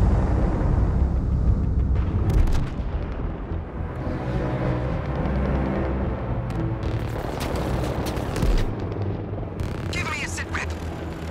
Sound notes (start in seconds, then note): 1.7 distant gunfire and explosions; 9.7 voice on radio